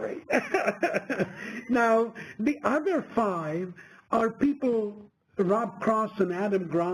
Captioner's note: laugh